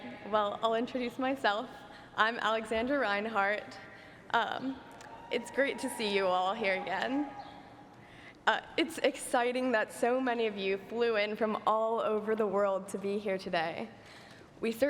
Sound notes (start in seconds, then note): 5.0 cheering